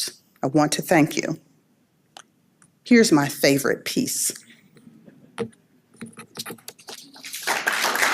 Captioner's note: applause